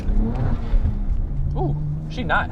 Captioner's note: car revs